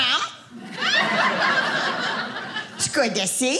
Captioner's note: audience laughing